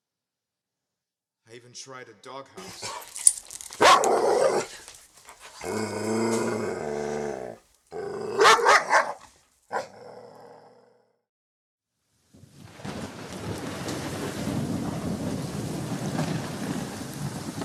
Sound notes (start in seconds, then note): 2.6 chain rattles, dog barks and snarls; 12.4 rain and thunder